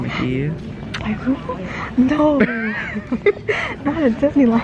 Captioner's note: laughing